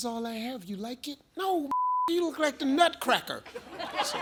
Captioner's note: beep; audience laughs